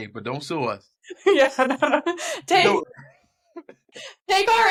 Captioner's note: laughter